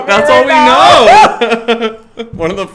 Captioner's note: both laugh